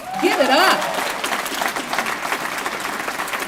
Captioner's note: applause